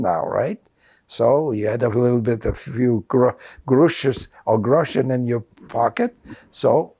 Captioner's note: non-english